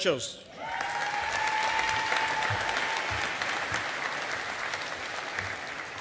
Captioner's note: audience applauding